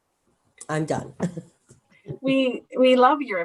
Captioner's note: laughs